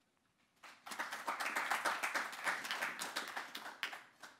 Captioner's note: audience applauding